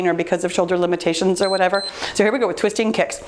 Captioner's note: timer beeps